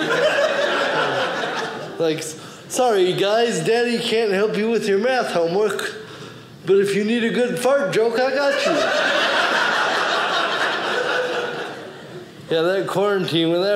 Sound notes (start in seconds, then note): 0.0 audience laughing; 8.4 audience laughing